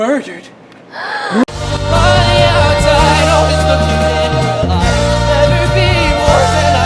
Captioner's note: gasping sound